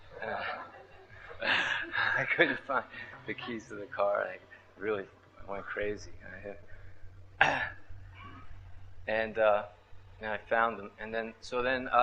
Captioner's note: laughs